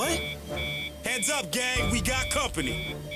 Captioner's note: radar beeps